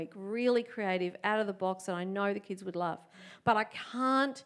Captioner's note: none